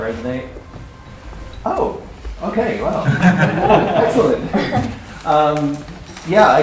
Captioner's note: laughter